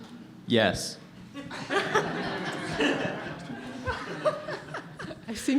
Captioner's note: laughs